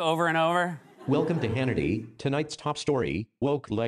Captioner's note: laughter